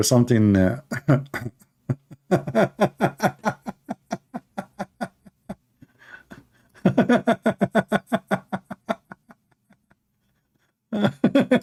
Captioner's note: Ketawa